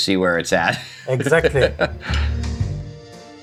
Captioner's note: laughing; gentle music